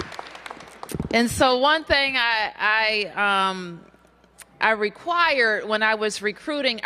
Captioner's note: applause